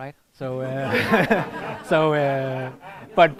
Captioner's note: laughter